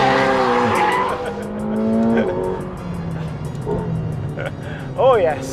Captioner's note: tires screeching; chuckles